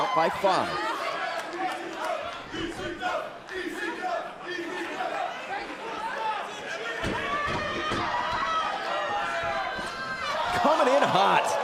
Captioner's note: crowd cheering